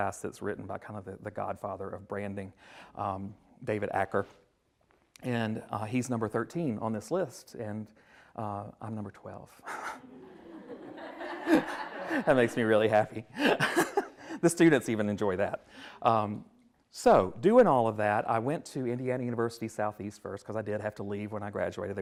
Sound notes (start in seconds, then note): 9.8 everyone laughs